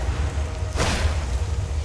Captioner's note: zzzzCXiiNG!!